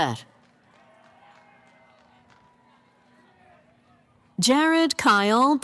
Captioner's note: cheering